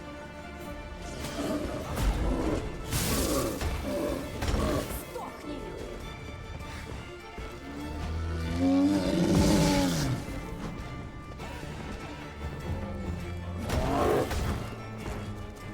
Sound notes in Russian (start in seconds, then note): 4.1 стон